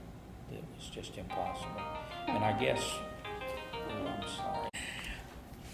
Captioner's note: cell phone rings